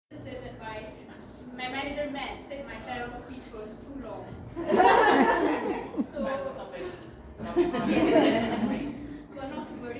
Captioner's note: laughter